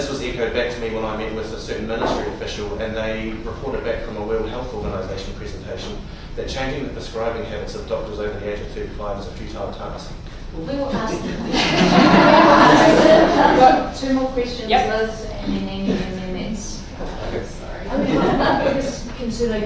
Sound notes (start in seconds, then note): 10.9 laughter